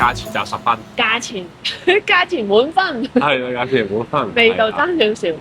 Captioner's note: laughs